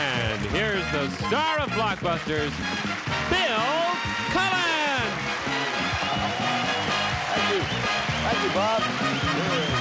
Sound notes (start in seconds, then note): 5.8 audience applauds